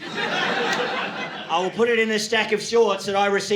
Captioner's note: audience laughing